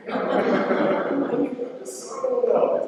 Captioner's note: laughter